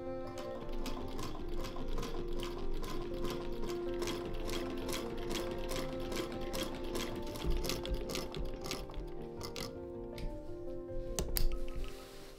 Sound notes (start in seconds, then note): 0.0 heavier, clankier whirring as our sewing machine fights several layers